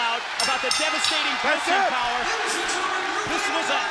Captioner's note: bell rings